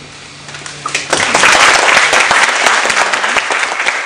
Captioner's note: applause